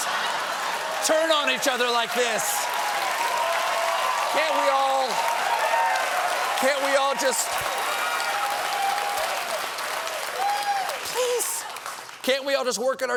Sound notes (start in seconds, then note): 3.3 cheers and applause